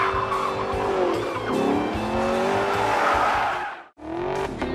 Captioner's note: tire screeching; engine roaring